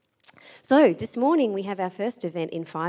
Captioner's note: none